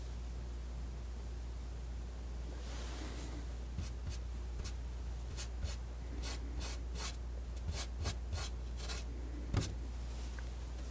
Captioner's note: scratching